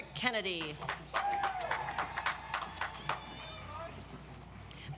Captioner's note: audience applauds